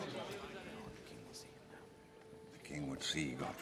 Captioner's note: wh ispers